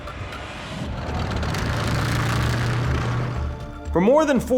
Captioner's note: tank whirring